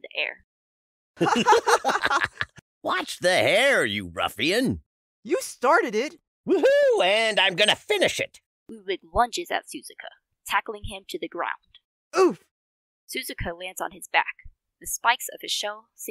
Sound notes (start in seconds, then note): 1.2 laughter overlapping